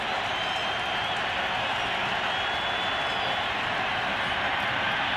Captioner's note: cheering